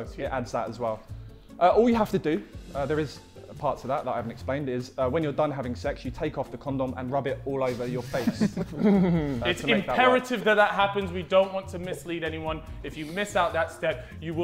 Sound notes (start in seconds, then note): 7.7 Sidemen laughing